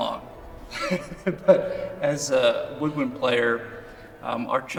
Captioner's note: laughs